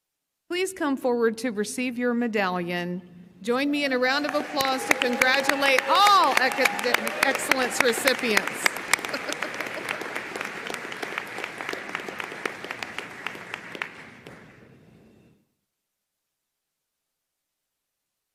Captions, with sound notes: Please come forward to receive your medallion. Join me in a round of applause to congratulate all Academic Excellence recipients. (audience applauding)